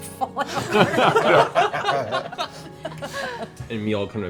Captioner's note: laughter